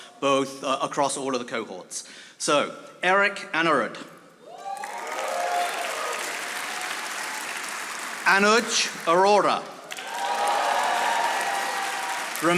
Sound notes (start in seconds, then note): 4.6 audience applauding